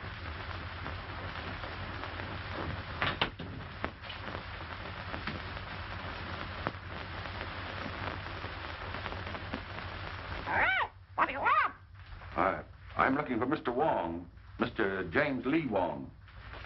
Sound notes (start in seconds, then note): 11.1 parrot squawks